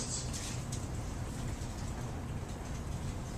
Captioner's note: none